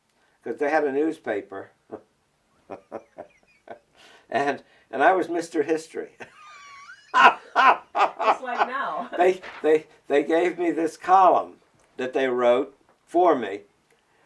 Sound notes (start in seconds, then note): 1.6 laughs; 7.3 laughs harder